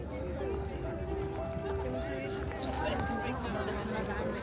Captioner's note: people chattering